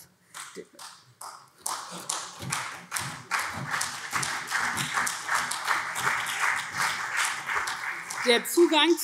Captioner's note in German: Vereinzelter Beifall SPD und CDU